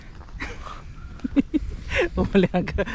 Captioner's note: laughs